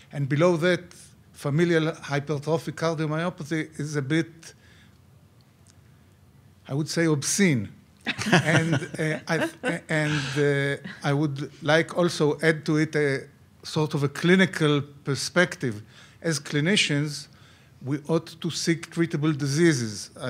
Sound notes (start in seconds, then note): 8.0 some laughing